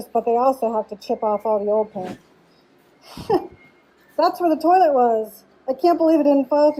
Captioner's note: laughing